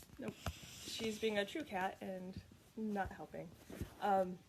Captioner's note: cat purring